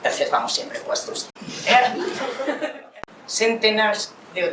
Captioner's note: laughs